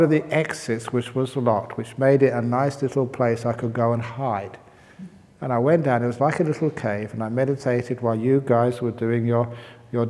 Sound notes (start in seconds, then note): none